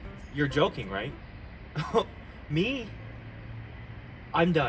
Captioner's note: scoffs